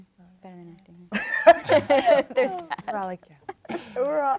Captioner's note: laughs